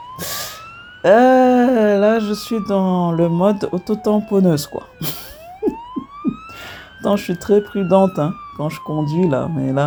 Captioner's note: laughs